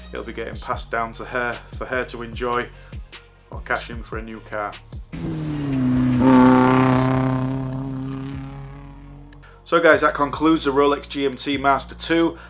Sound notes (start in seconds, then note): 5.1 engine roaring